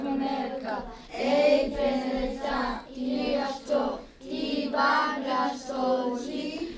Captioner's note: students speaking Western Apache